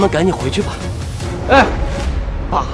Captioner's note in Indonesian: Menghela napas